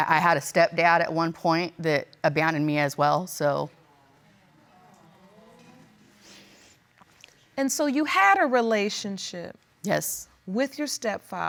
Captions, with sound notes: I had a step-dad at one point that abandoned me as well, so... (SNIFFLING) And so, you had a relationship... Yes.